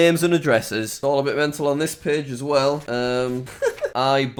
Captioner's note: laughs